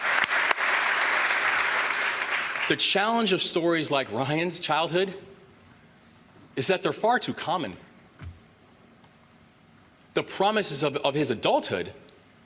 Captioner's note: applause